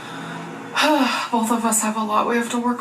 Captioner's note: sighs